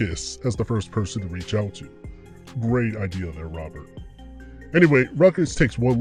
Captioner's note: sarcasm